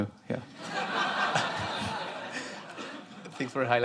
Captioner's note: laughter